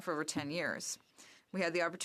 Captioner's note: speaking French